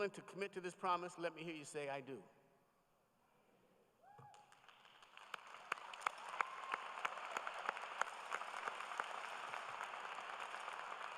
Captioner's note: applause